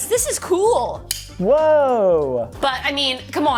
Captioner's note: blade clicks